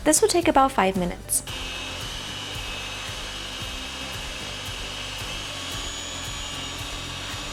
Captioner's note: blending noise